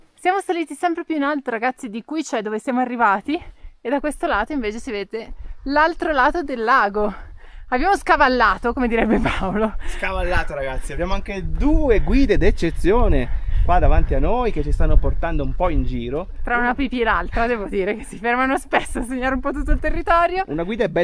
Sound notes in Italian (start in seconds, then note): 8.9 risate